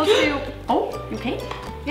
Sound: gasps

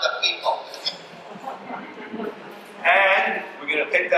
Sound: audience laughs

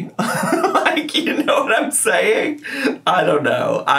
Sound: laughing

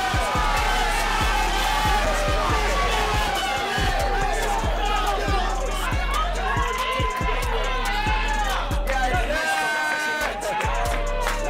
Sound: excited yelling

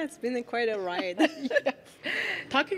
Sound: laughing

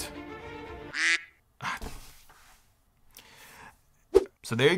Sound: computer honks

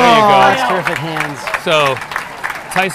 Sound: audience applauding and cheering

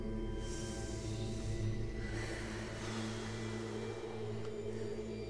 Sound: inhaling and exhaling

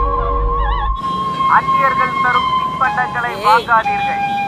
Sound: police announcement

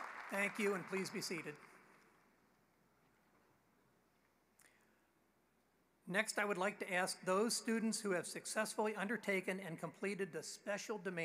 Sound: applause

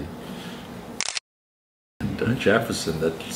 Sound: camera click

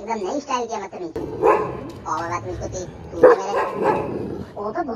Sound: dog barking

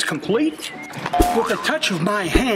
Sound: boinking

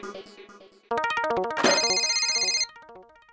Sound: phone rings

